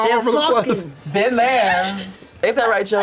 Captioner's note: laughs